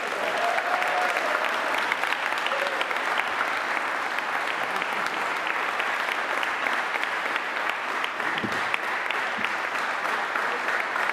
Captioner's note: applause